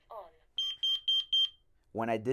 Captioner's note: beeping